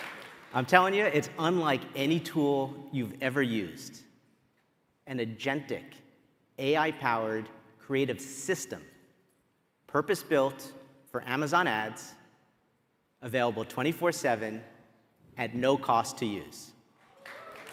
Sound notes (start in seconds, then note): 0.0 applause